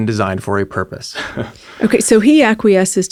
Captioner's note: chuckles